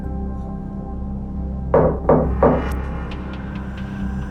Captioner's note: knocking